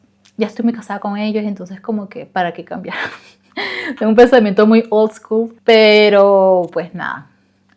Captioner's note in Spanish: risas